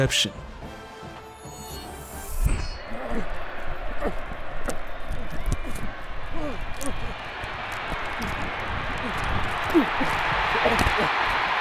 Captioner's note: crowd cheering